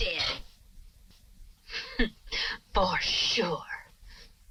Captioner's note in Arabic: يضحك